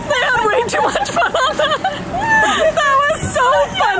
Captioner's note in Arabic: يضحك